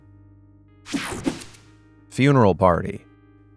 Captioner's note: graphic whooshing